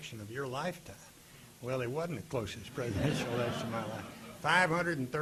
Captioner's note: audience laughing